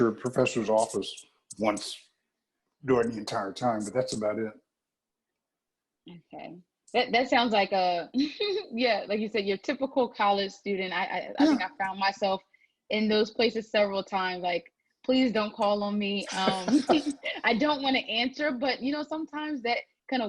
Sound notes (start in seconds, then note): 16.2 laugh